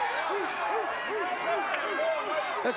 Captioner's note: audience barks